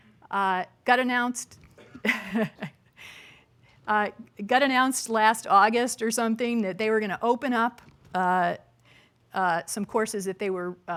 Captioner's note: chuckles